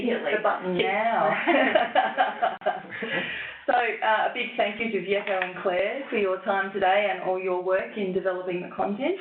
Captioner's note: laughs